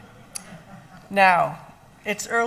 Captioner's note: laughing